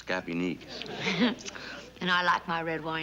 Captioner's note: chuckles